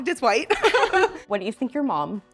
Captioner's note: all laughing